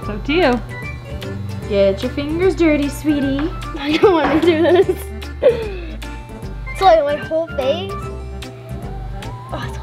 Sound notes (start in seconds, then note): 0.0 light playful music; 5.4 laughs